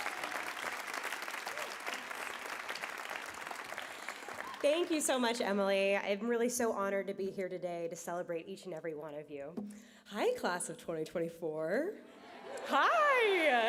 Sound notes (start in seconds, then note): 4.8 applause